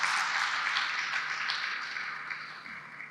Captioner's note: applause